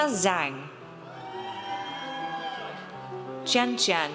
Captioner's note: audience cheers